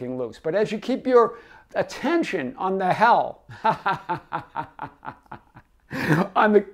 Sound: laughs

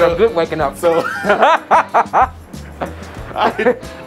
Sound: laughs

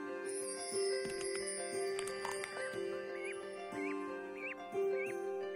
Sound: chick cheaps

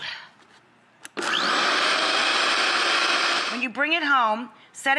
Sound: blender running

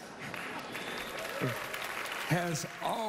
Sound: cheering, applause

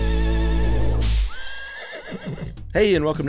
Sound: horse neighing

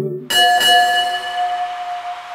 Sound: bell rings

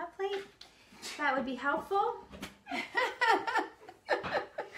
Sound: laughs

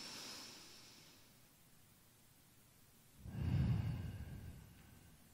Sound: breathing deeply

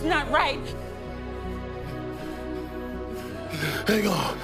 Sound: gasping

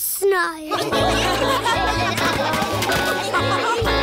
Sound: laughter

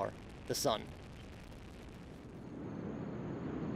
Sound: engine noise

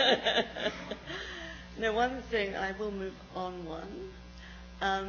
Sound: laughs

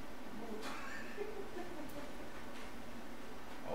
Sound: laughs

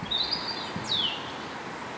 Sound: birdsong

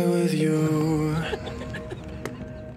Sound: laughing

